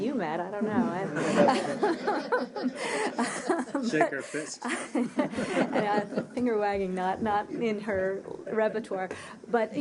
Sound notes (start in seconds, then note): 3.3 laughter